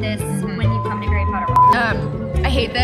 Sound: beep

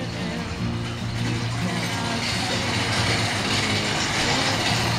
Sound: garage door clanging

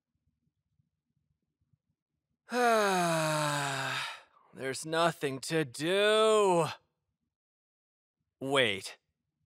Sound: deep, dramatic sigh

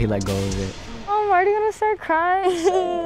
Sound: laughs; gentle music

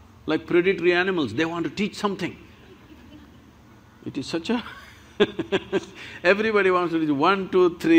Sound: few Laugh; laughs

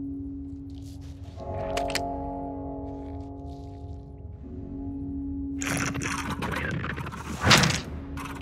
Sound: static and other scary noises

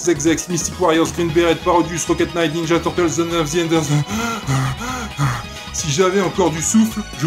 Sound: panting

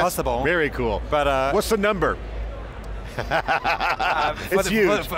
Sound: laughs

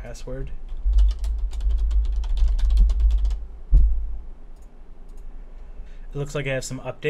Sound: keystroke sounds and clicking

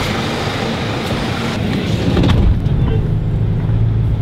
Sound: car running

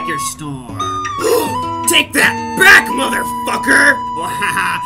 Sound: gasp

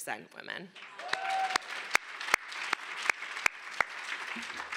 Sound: applause

